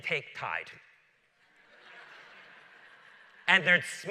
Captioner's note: laughter